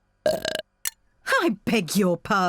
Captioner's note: burps